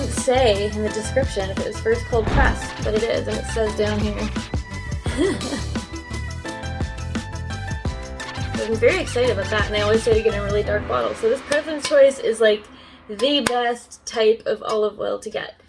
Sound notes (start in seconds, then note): 3.8 laughs